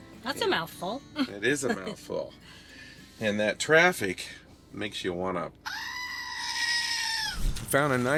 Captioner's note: Billy the goat screams